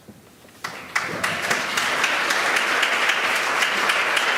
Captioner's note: applause